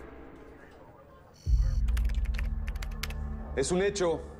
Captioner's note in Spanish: Bip del localizador